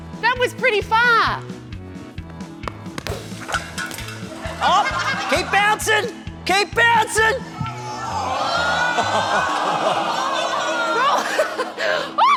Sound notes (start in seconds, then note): 7.7 audience groans; 8.6 laughs